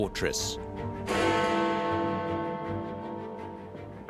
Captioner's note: bell tolls